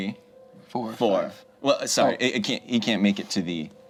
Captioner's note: none